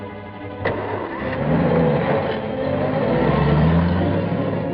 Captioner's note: engine turning